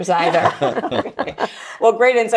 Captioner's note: group laughing